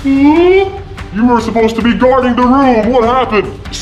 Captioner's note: gasps